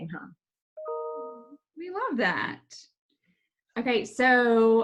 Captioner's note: computer notification rings